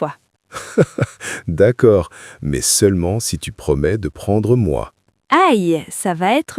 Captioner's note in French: rire